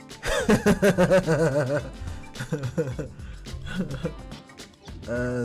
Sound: laughing

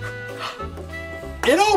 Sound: assistant gasps

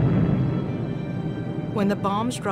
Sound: planes flying

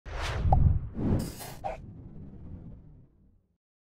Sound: logo whooshing

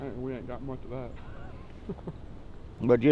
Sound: laughing

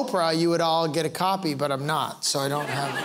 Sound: laughter

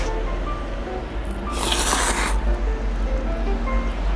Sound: slurping noodles X 17

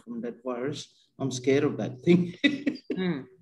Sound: laughs

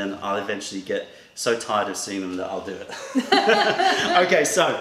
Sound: laughter

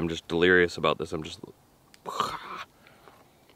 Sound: groaning

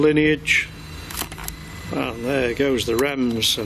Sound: device beeps

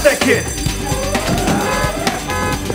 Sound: horn blowing

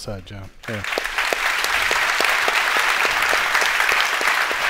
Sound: applause

